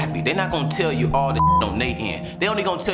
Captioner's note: beep